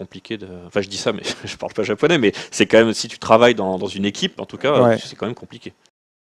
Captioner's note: laughs